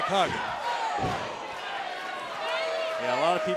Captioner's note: crowd cheering